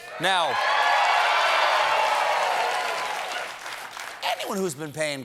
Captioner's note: cheers and applause